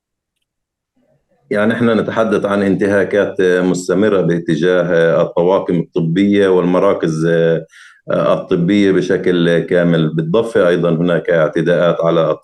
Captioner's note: speaking arabic